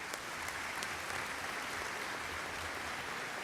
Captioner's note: applause